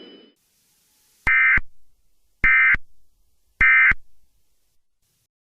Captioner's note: end of Message Tones